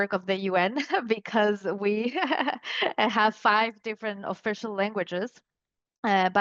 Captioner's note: laughs